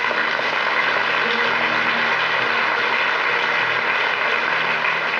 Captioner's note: audience applauds